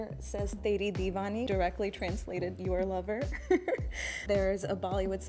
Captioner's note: laughs